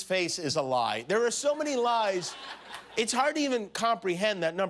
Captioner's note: laughter